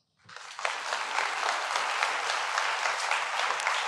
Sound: crowd clapping

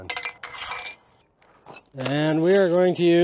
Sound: metal scrapes

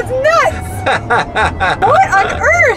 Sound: man laughing

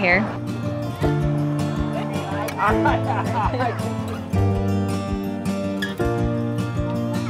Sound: laughing

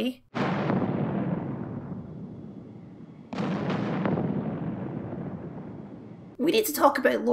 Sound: comedic Explosions

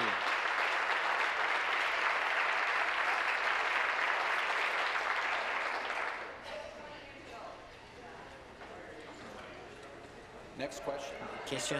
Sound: applause

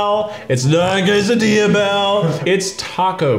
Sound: burping

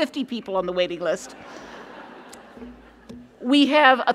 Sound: laughter

